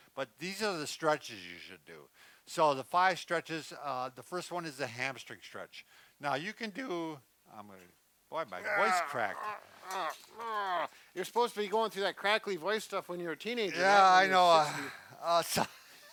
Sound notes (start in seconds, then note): 8.6 growling